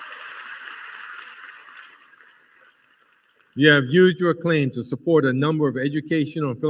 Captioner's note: applause